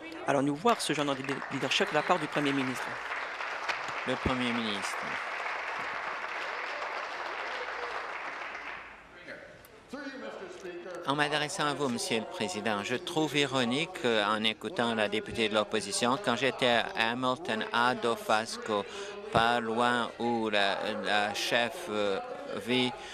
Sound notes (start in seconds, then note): 3.3 applause